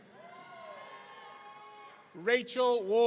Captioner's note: audience cheering